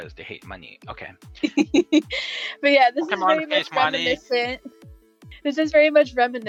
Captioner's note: chuckles